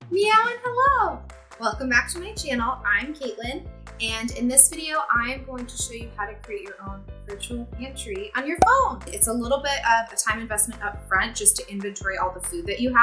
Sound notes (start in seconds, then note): 8.6 cork pop